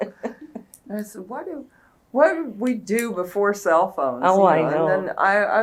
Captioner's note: laughter